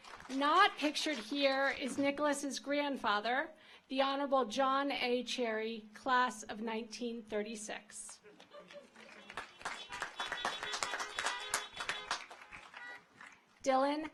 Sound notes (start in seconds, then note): 4.1 audience applauds; 4.1 car horns honking